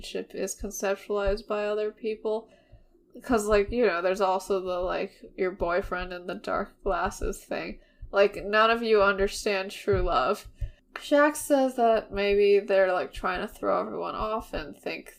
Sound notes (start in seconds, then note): none